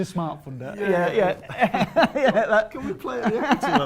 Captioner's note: laughter